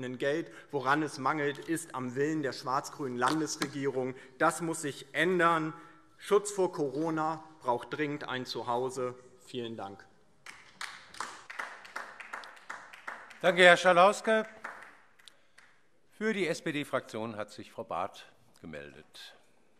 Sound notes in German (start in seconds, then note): 10.4 Beifall DIE LINKE